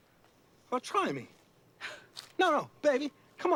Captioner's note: edie scoffs